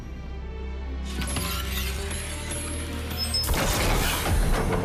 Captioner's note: whizzing, dinging; whooshing, clacking